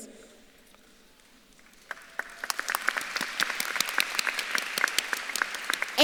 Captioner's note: audience claps and cheers